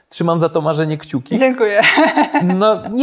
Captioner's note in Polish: śmiech